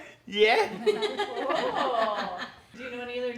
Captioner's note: laughs